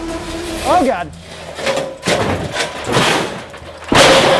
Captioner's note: metallic clanking